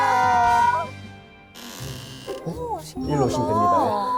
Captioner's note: creak